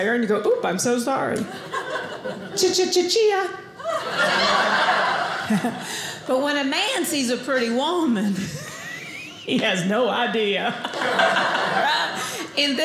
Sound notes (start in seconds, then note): 3.8 audience laughing; 10.8 audience laughing